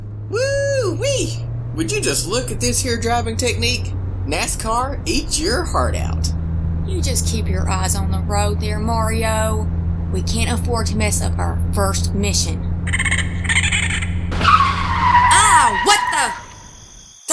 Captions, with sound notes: BUBBA Whoo, wee! Would you just look at this here drivin’ technique? NASCAR, eat your heart out! CHARLENE You just keep your eyes on the road there, Mario. We can’t afford to mess up our first mission. [surprised chittering] [car breaks squeal] CHARLENE AH! What the...